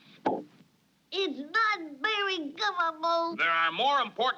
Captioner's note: nasal voice